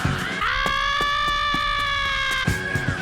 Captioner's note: Asta screaming